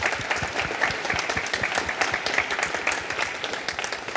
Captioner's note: crowd applauding